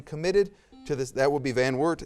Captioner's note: buzzer